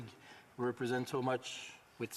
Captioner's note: speaking French